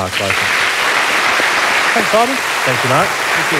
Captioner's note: applause